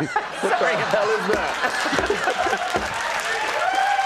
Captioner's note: crowd laughing